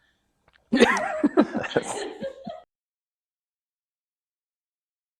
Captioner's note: laughs